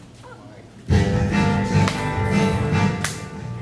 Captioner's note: laughing